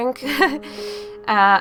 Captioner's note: laughing